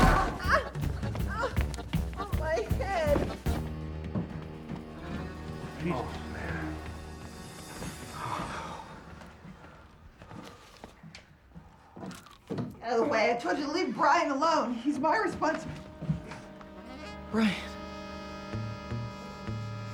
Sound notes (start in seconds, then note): 8.0 sighs